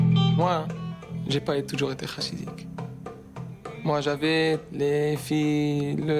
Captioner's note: speaking in foreign language